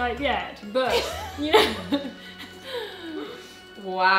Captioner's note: both laughing